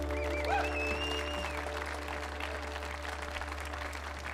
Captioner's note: audience applauding